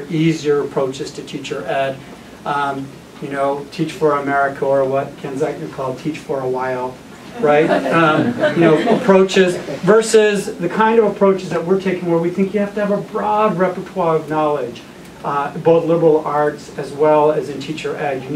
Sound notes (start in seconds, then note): 7.4 laughter